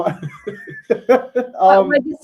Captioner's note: laughter